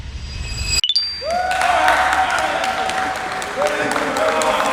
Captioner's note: applause